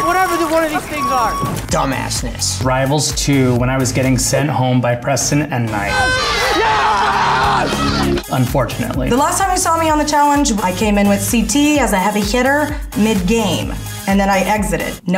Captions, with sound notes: Whatever the one of these things are. Dumassness. - Rivals 2 when I was getting sent home by Preston and Knight. (man yelling) Unfortunately. - The last time you saw me on The Challenge, I came in with CT as a heavy hitter mid game, and then I exited.